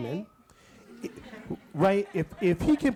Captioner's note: audience laughs